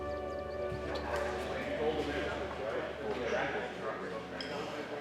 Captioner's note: people chattering